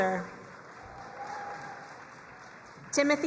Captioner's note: crowd cheering and applauding